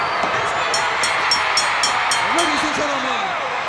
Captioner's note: crowd cheers; bell rings